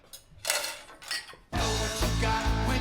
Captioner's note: dishes rattling